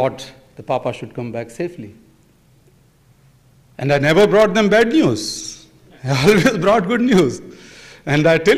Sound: laughs

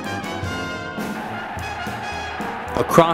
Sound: crowd cheering

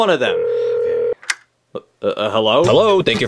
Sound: phone ringing

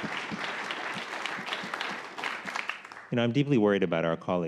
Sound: applause

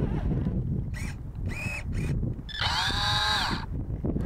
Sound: remote control truck engine humming; mechanical whining; buzzing

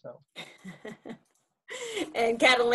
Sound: laughs

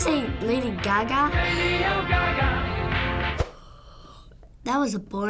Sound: yawning

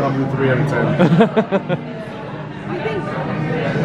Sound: chuckles

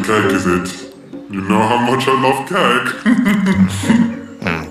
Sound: chuckles

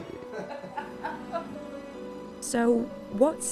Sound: laughing

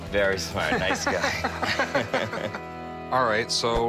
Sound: laughing

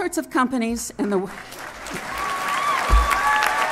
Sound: applause

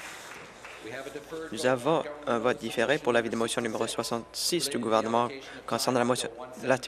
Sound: applause

